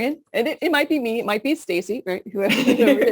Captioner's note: laughter